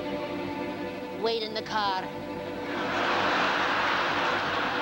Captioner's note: with Russian accent; laughter